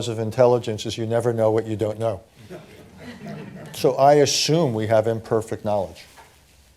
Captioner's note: laughter